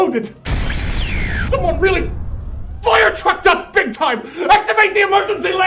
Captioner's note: static